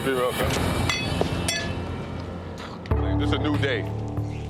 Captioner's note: glasses clanking; upbeat music plays